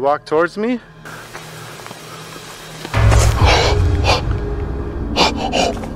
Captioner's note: sound of footsteps nearby